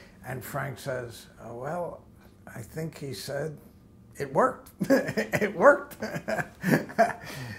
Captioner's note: laughter